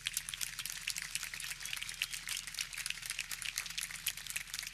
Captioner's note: audience clapping